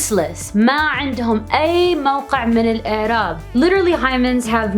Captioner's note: speaking Arabic